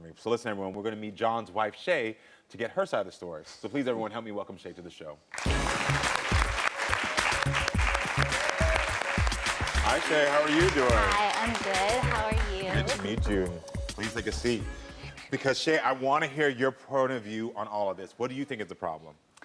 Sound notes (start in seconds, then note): 5.4 cheering; 5.5 upbeat music